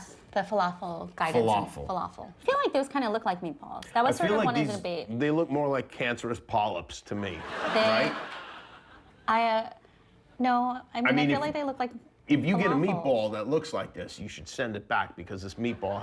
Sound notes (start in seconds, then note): 9.6 laughter